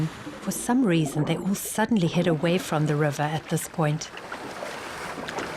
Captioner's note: animals calling